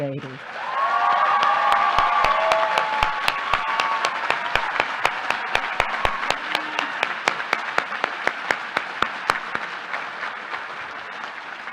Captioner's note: applause